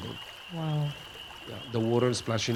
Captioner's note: water rushing